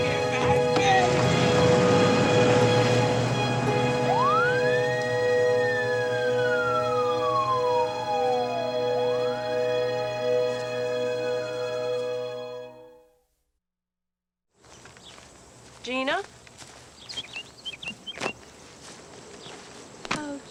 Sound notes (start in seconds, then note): 4.3 police siren blaring; 14.7 birds chirping